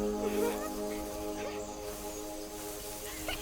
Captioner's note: girls giggling